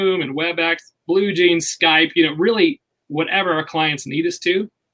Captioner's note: none